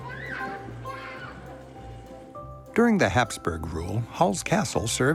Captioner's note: children shout playfully